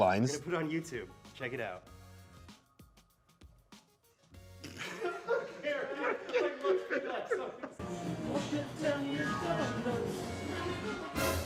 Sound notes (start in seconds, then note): 4.7 cast laughing; 11.2 dramatic music